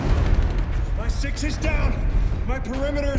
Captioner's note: rapid gunfire blasting